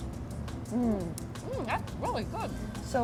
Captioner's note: both moaning